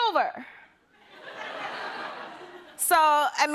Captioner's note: laughter